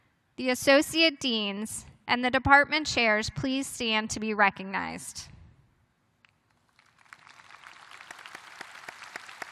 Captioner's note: applause